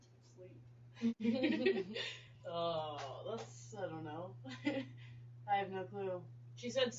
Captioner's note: laughing